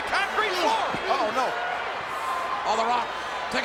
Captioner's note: crowd cheering